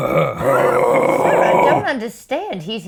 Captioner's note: growling